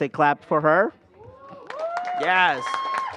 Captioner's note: applause